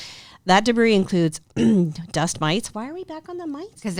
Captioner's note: clears the throat